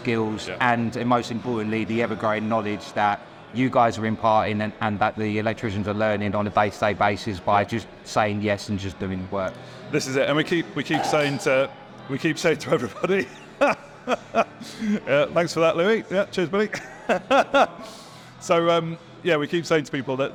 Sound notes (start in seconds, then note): 11.5 metal clangs; 13.5 laughs; 17.9 laughs